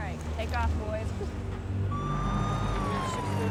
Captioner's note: sirens